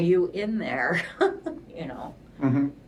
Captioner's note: laughs